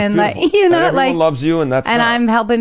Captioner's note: chuckles